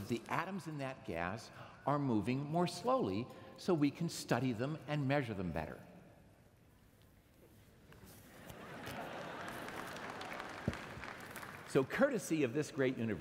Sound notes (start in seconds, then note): 5.0 laughter